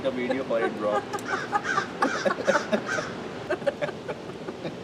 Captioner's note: laughter; hysterical laughter